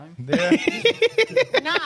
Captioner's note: laughing